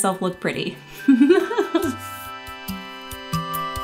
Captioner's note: laughing; soothing ambient music continues